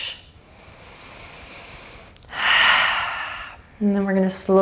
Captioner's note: breathing deeply